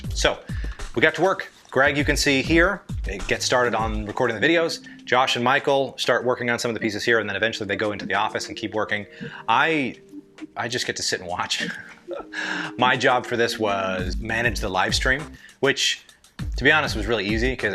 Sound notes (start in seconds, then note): 11.6 giggles